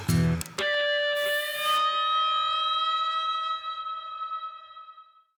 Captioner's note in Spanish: Soplido